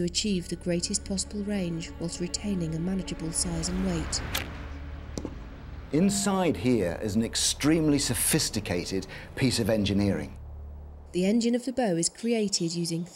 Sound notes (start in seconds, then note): 4.2 sound of bow releasing